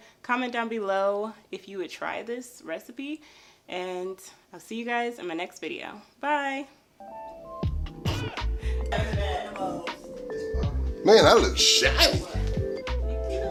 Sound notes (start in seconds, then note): 8.8 giggling